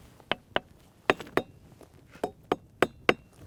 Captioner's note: rocks tapping